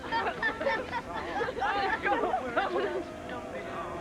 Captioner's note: laughter